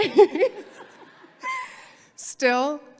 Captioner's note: all laughing